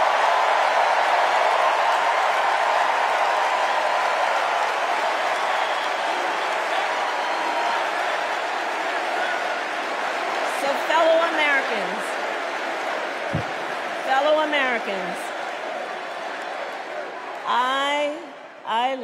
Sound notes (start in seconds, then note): 4.7 cheers and applause